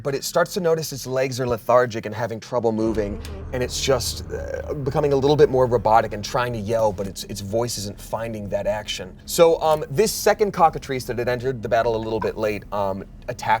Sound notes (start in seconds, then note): none